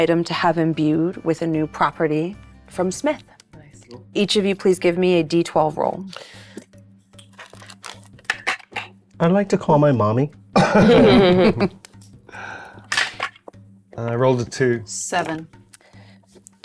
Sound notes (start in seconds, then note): 10.6 players chuckling; 13.2 dice rattling